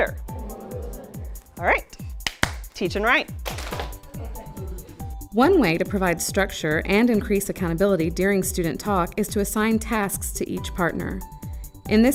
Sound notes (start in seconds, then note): 2.2 clapping